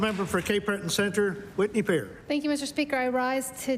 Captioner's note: applause